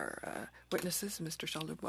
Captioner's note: speaking French